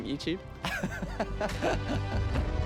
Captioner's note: laughing